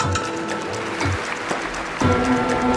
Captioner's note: audience applauding; rousing music